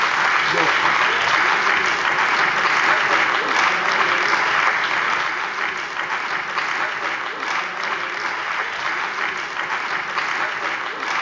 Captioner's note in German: Anhaltender Beifall bei der CDU und dem BÜNDNIS 90/DIE GRÜNEN